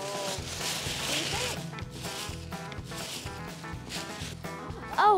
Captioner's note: tissue paper rustling